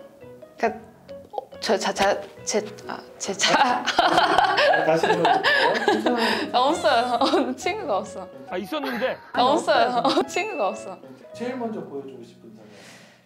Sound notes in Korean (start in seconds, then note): 3.7 박장대소